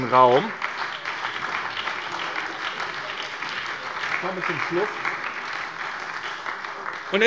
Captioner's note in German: Beifall bei der SPD